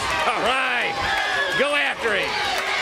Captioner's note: crowd cheering